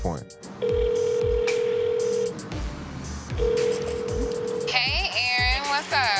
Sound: cell phone ringing

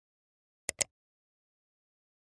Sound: click

